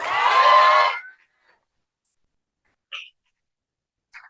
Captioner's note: cheering